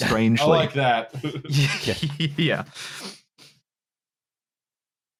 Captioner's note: laughter